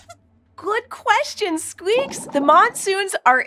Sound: squeaks squeaking

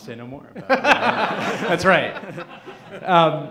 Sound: laughing

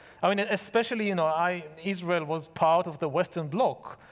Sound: none

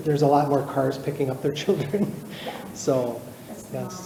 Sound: chuckles

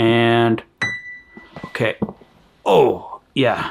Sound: chime sounding

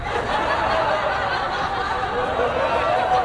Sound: laughing

